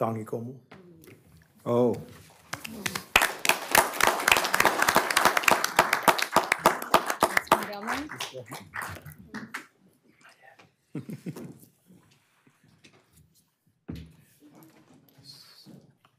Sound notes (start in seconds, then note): 11.4 applause